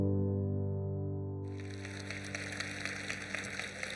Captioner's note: applause